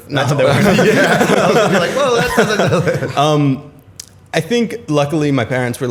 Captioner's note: laughter